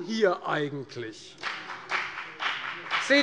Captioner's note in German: Beifall bei der FDP